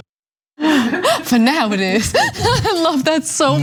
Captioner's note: laugh